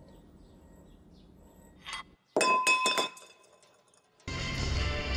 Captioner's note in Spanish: golpes en cristal